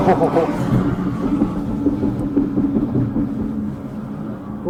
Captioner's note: more knocking